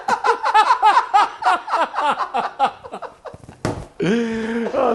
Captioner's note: laughing